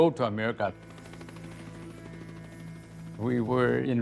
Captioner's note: helicopters whirring